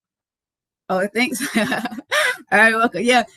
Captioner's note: laughs